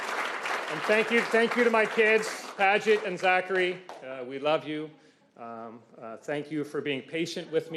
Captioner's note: applause